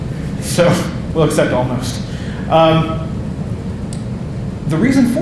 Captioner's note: laughing